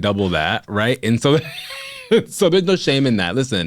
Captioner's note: laughs